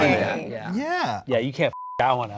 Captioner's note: beep